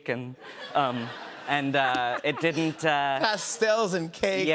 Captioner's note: laughter